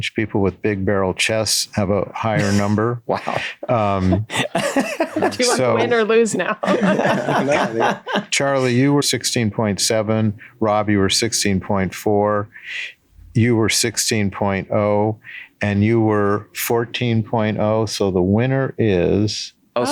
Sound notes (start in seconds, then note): 4.1 Glenn and Meg laugh